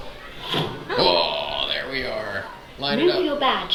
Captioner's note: air whooshing